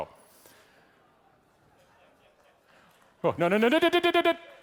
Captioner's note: audience laughing